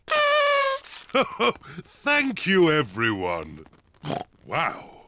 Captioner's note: kazoo trumpets; chuckles; oinks